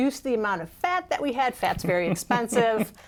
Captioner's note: laughter